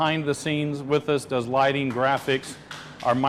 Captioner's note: chef applauding